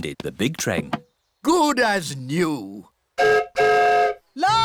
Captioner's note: whistle blows